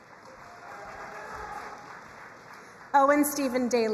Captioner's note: crowd cheering and applauding